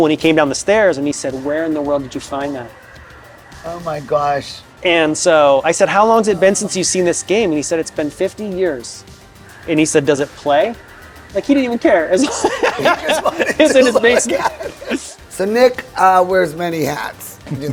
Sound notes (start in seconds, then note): 10.4 electronic music continues; 12.1 both laughing